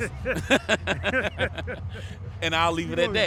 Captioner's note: laughs